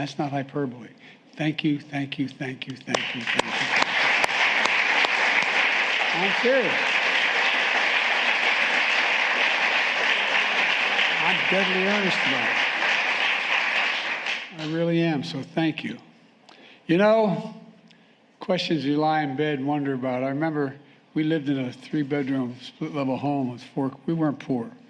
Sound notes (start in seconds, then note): 13.1 applause